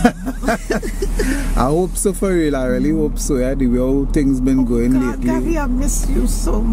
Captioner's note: laughing